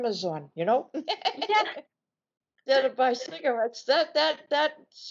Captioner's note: laughing